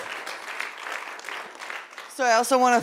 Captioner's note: audience applauding